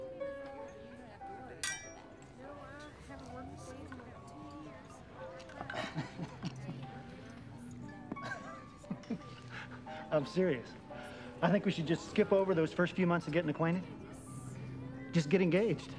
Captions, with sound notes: (glasses clinking) (chuckles) I'm serious. I think we should just skip over those first few months of getting acquainted, just get engaged,